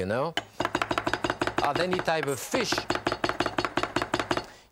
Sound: knife chopping against cutting board

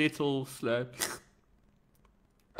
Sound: royal slurp

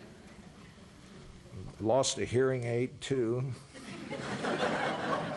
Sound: laughter

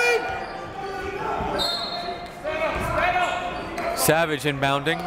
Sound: whistle

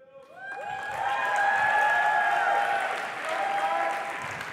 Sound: applause and cheering

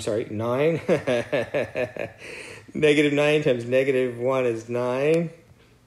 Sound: laugh

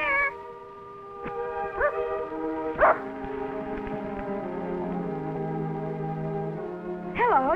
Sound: dog barking

